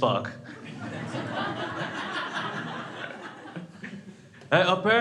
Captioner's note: crowd laughs